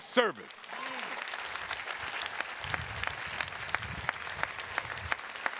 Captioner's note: attendees clapping